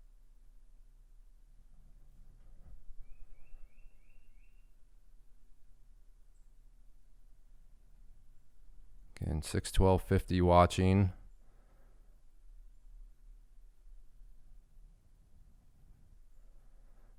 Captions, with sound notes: (bird chirping) Again, 612.50 watching.